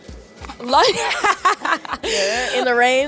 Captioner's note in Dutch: Gelach